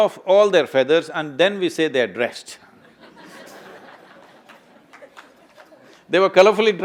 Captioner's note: laughter